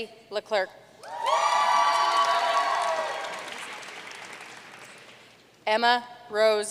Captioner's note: audience cheering and applauding